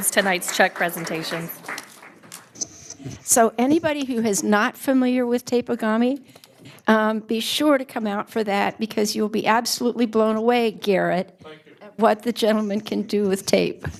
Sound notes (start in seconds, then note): 2.6 applause